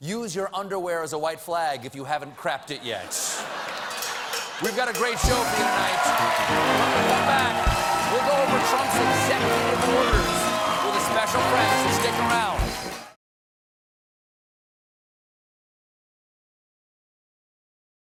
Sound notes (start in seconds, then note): 3.0 laughter